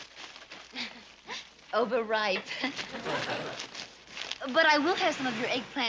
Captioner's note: laughing